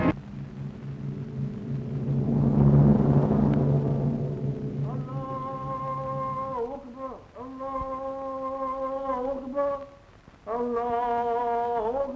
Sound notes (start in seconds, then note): 0.0 drum rolling; 5.0 man chanting in foreign language